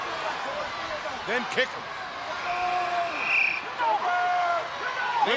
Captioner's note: crowd cheering